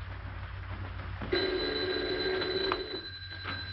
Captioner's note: phone rings